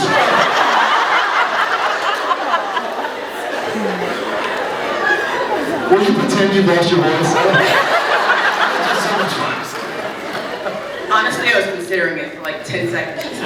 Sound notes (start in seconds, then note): 0.2 laughs; 7.6 laughs